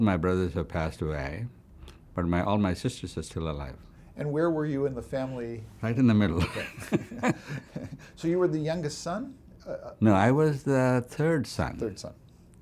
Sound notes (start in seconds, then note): 6.4 laughs